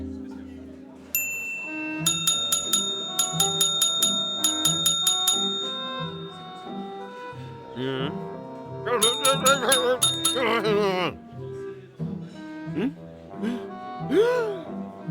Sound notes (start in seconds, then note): 1.2 bell ringing rapidly; 9.0 bell ringing weakly; 10.5 grumbling; 13.4 gasps; 13.4 inhales deeply